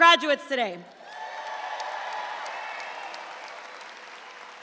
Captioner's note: audience applauds